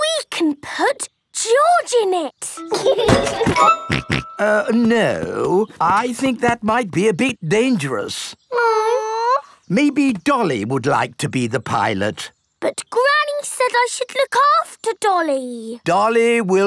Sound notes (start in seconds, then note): 2.7 laughs and snorts